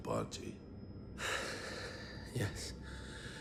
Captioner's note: sighs